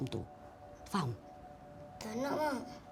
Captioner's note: in Bahasa Melayu